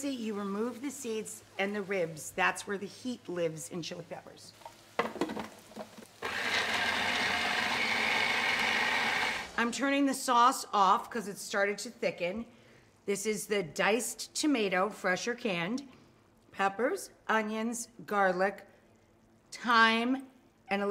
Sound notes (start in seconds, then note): 6.2 food processor roars